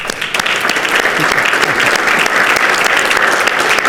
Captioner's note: participants clap